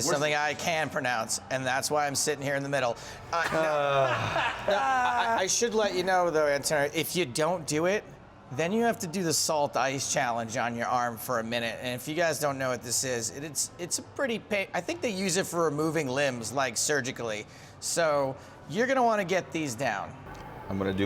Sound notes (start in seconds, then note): 3.3 laughs